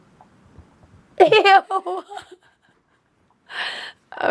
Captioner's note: laughs